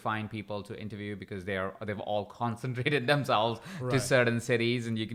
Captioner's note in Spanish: chuckles